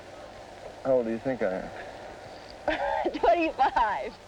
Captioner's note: laughing